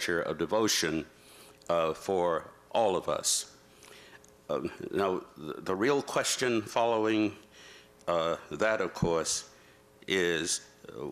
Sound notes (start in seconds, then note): none